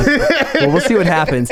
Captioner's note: laughing